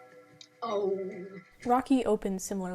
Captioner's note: groaning